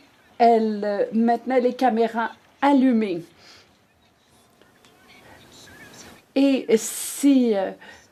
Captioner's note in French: voix de l'interprète